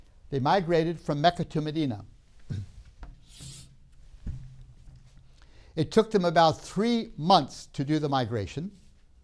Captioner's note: clears throat